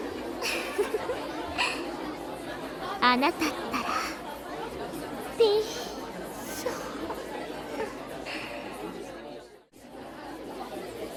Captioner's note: giggle